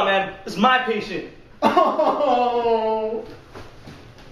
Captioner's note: bursts into tears